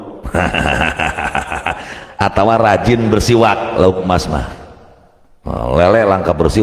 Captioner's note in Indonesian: tertawa